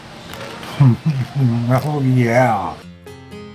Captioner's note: chuckles